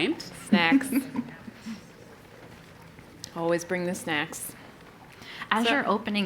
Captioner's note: laugh